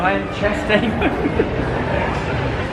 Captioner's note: laughs